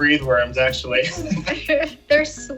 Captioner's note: laughter